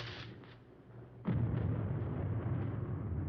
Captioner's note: thunder crashing